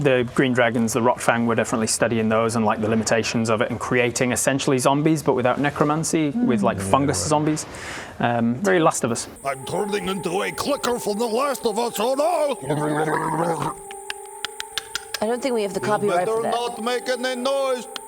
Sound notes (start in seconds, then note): 12.7 mycosynthesis noises; 14.1 creepy teeth chattering